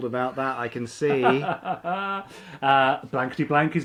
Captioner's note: laughs